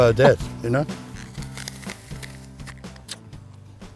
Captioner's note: apple crunch